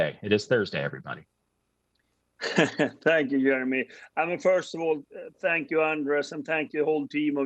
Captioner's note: chuckles